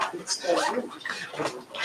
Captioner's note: zipper